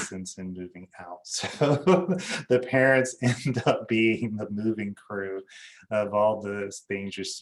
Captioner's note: laughs